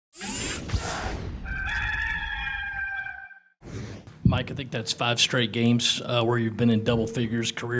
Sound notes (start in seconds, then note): 0.2 whirring; 1.4 crowing